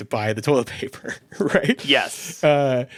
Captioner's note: chuckles